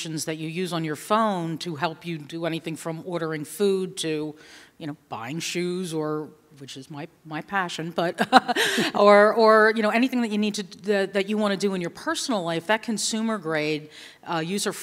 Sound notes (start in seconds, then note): 8.2 laughter